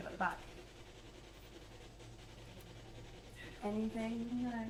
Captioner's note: electronic whirring